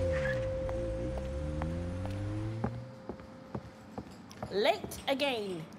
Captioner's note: tires screeching; engine roaring; footsteps plodding